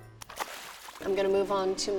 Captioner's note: water splashing